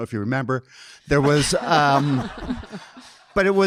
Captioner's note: audience laughing